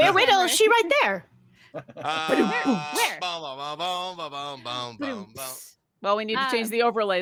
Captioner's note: mimics drum sound; humming